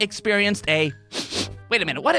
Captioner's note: sniffs